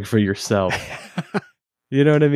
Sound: laughing

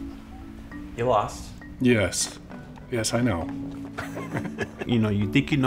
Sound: chuckles

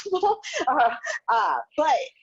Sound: laughs

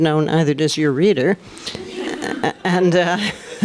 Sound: laughter

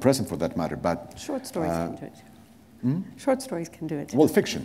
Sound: chuckle

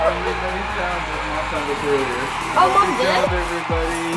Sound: all mumbling

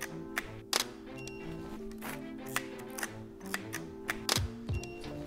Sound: camera shutter clicks

